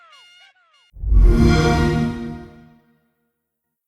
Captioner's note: xbox sound